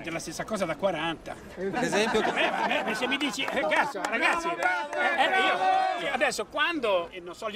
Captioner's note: crowd